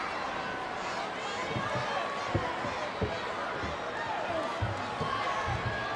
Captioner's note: audience chattering continues